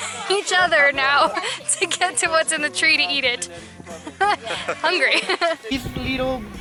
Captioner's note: laughter